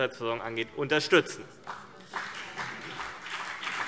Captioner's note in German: Beifall CDU und BÜNDNIS 90/DIE GRÜNEN